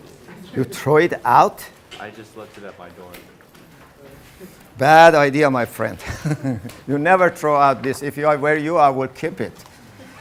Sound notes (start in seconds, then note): 6.0 laughing; 9.1 laughter